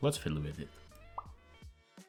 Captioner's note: pop